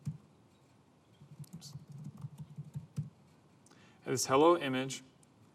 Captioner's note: typing sound